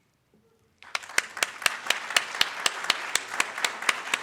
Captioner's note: audience claps